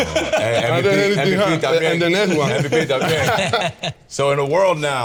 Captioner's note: all laughing